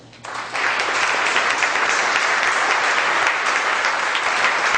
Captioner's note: audience applause